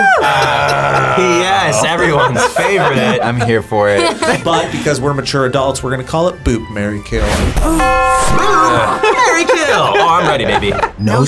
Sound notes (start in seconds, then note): 4.1 both laugh; 8.6 laughs